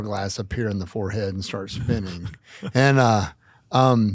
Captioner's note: group members laugh